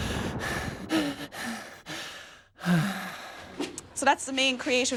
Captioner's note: heavy breathing